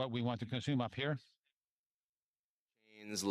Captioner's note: speaking French